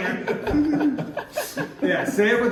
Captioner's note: all laughing